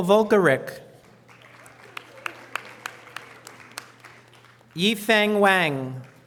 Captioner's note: audience applause